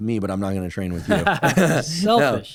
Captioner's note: laughter